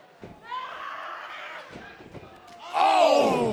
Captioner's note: Asuka snarls